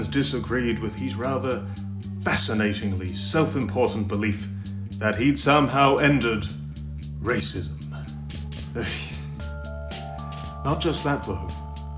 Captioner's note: sighs